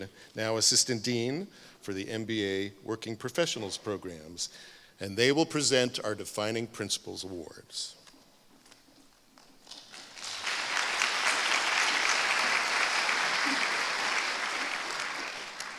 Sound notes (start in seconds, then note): 9.8 applause